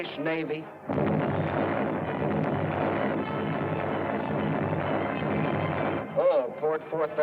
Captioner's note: explosions